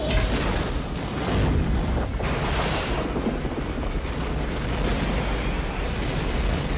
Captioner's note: dramatic music; blast rumbling